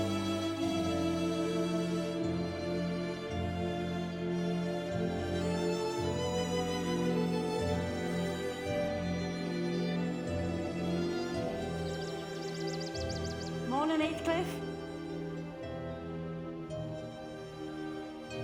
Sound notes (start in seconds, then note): 11.0 birds singing; 15.7 soft music